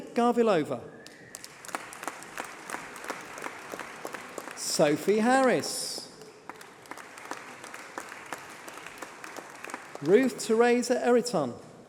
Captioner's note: applause